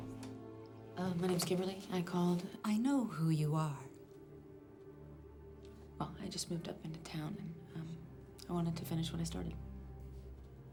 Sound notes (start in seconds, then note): none